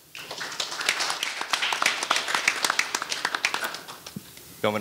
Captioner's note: audience applauding